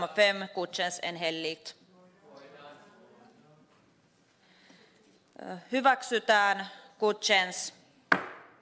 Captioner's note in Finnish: nuijan kopautus